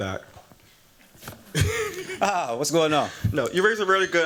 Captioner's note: laughs